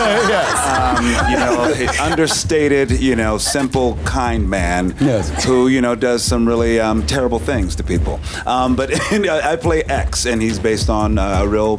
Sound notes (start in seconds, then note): 0.0 laughter; 8.9 laughs